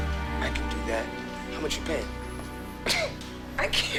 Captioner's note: scoffs